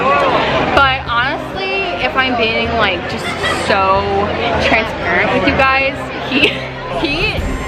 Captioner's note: laughs